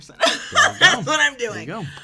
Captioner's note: laughs